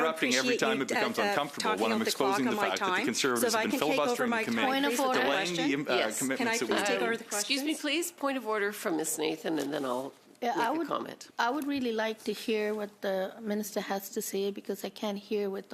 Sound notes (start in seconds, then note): 10.5 mixed voices